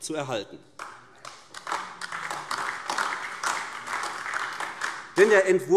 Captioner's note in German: Beifall AfD